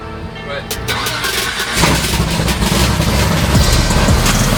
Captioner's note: car engine starts